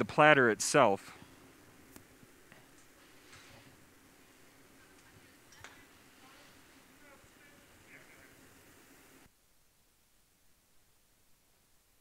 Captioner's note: silence